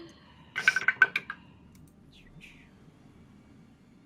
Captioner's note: dice rattling